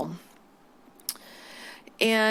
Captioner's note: clicks tongue